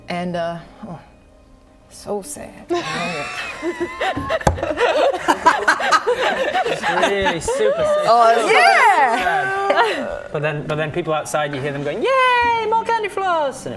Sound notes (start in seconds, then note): 5.2 very sad giggles